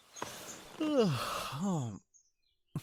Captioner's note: sleepy groan